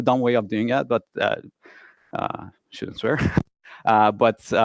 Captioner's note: laughs loudly